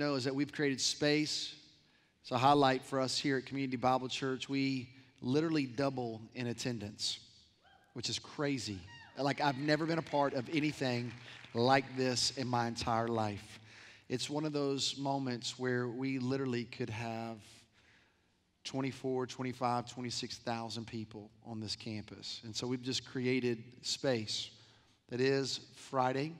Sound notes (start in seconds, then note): 9.4 applause